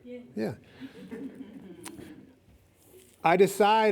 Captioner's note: lip smack